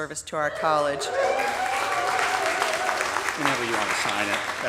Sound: audience cheering; audience applauding

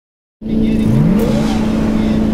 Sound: engine revving

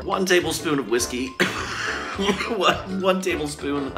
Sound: coughing

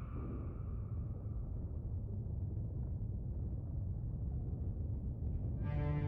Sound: low rumbling

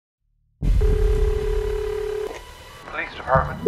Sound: phone ringing

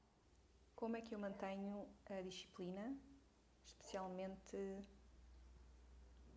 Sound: talking and a dog starts to bark

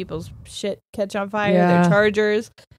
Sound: laughs

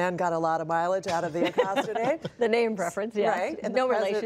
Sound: laughter

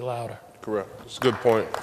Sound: applause

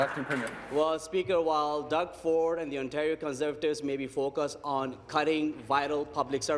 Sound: applause

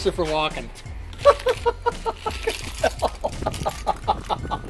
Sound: laughing

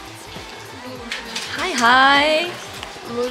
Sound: nom nom

